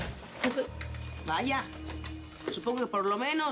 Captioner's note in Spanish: ruido al entrar